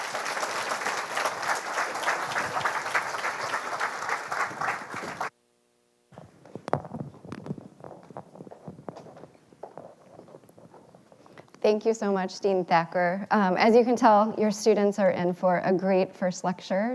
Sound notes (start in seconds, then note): 0.0 audience applauding